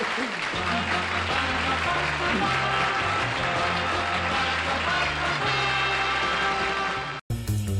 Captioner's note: applause